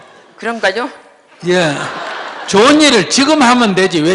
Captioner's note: audience Laughter